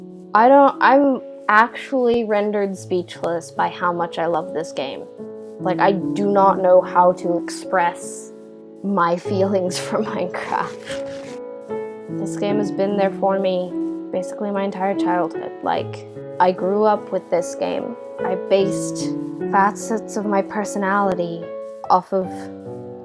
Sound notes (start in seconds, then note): 10.3 laugh